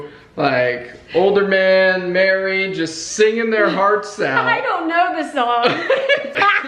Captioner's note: both laugh